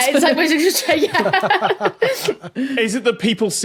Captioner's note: guests laughing